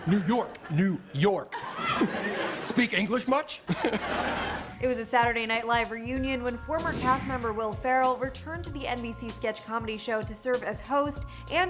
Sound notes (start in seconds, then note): 1.5 audience laughs; 3.7 chuckles